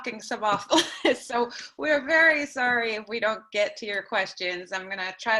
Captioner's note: laughter